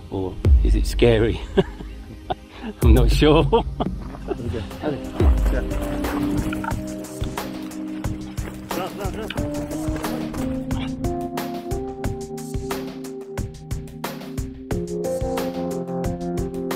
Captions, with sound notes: Or is it scary? (laughs) I'm not sure. (laughs) (gentle majestic music)